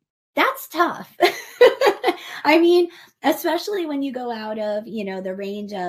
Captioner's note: laughs